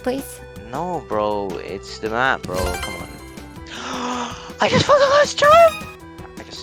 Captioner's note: gasp